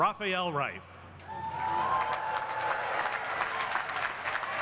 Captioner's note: cheering and applause